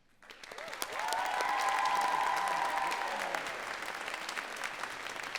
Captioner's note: audience cheering and clapping